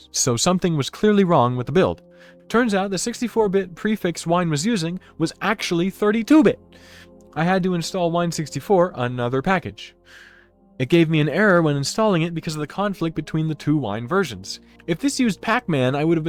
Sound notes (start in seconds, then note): none